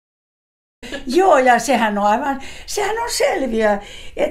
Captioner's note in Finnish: naurua